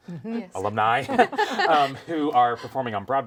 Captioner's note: laugh